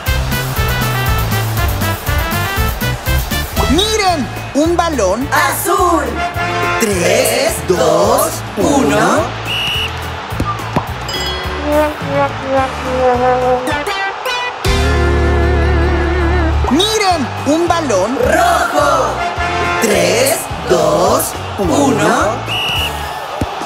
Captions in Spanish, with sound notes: (Música Alegre) Miren un balón... Azul Tres, dos, uno... (Sonido de silbato) (Campanas) (Sonido de error) Miren un balón... Rojo Miren un balón...